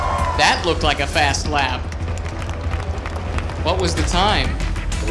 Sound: cheering; applause

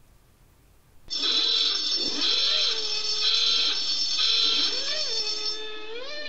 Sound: noisy klaxon

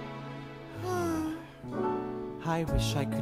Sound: sigh

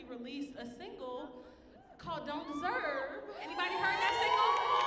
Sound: audience cheering

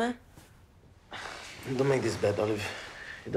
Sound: grunts

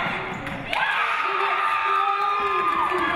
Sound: audience cheering

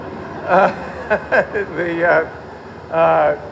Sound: laughter

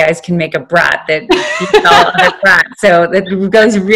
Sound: laughing

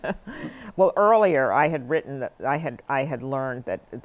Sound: laughter

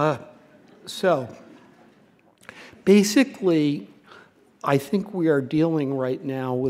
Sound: laughter

